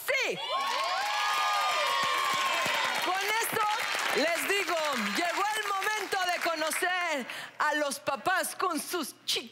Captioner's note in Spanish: Aplausos